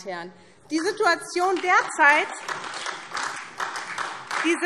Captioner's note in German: Beifall